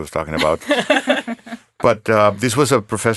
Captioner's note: laughing